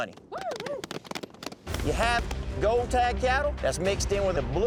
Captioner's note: cowboys cheering, clapping